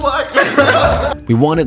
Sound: laughter

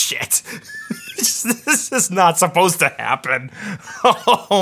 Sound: chuckles

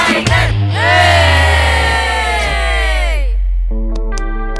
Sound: kids hooting

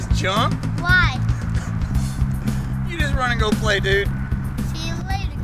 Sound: laughs

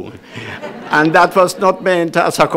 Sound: audience laughs

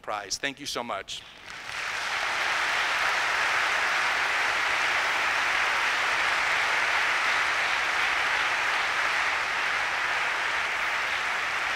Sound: applause

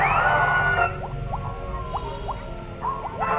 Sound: screams; ocean giggiling; clock ringging

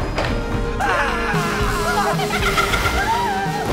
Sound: yells; shrieks

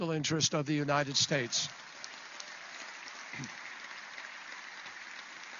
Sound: applause

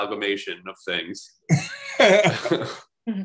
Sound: laughs

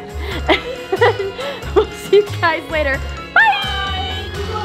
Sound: laughing

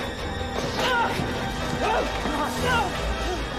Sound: men struggling; scary music intensifies

